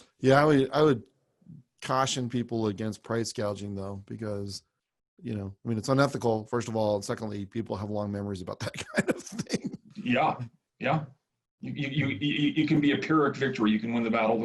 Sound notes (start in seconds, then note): 8.7 laughs